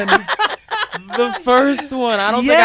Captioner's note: laughing